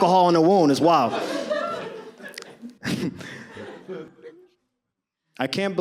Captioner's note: audience laughs